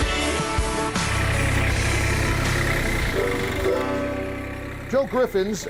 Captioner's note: tractor motor roaring